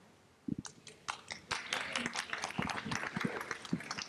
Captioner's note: applauding